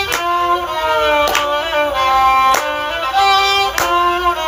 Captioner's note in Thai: ปรบมือ